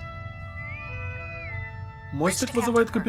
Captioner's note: intercom whistle